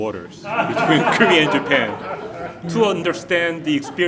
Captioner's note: audience laughing